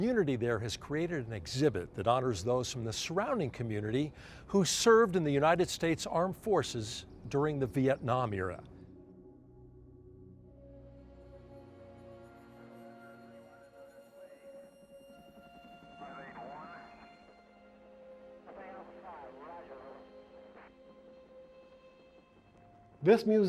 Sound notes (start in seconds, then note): 11.2 reverential music; 16.7 man On Radio